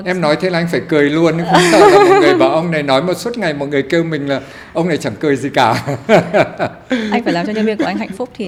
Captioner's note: laugh